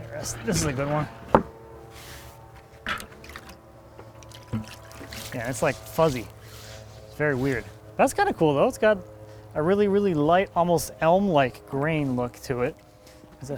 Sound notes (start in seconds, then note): 4.2 water splashing